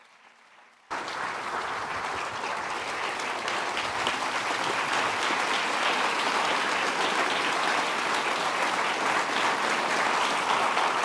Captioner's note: applause starts again